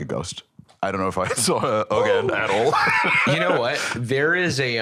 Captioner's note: laughs